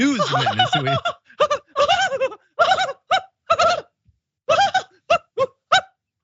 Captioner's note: laugh